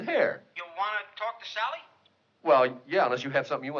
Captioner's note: on phone